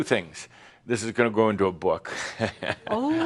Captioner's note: chuckles